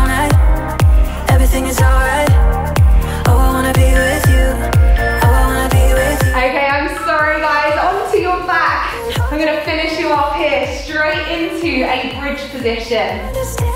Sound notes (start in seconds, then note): 3.9 alarm beeping